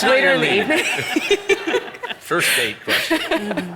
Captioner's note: audience laugh